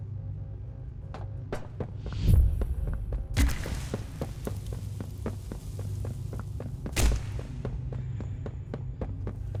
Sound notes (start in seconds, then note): 2.5 footsteps